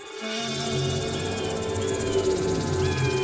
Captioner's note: vultures screaming